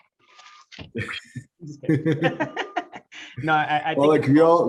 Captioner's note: laugh